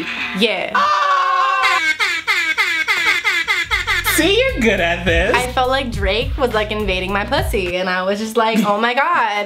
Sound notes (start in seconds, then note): 0.7 screaming; 2.8 air horns